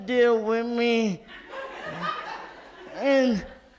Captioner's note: audience laughs